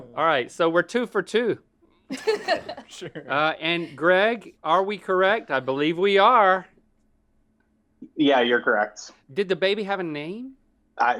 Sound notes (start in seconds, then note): 2.1 laughing